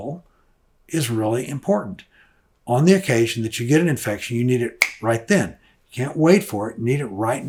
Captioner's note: snaps fingers